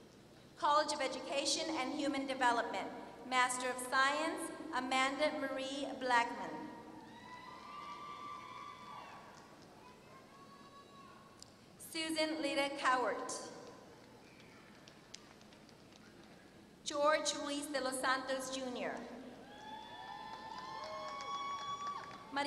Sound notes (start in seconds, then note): 8.6 applause; 19.8 applause